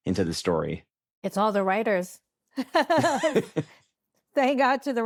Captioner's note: laughs